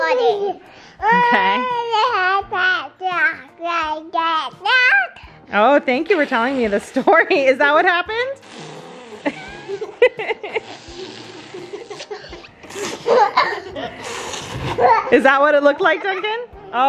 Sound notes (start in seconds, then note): 1.2 speaks gibberish; 8.4 blows raspberries, all laugh; 8.4 laughs